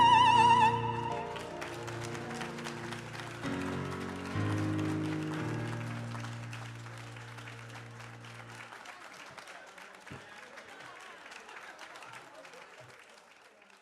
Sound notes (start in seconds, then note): 1.4 audience claps